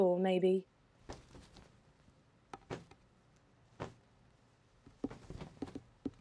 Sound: feathers ruffling, pecking noises

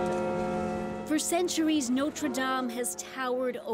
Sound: bells tolling

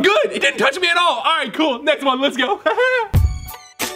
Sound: lightly chuckles; upbeat music

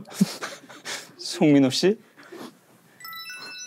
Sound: laughing

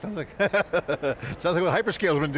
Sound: laughing

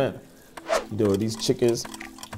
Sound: clock ticks

